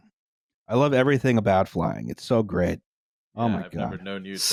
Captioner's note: unenthusiastically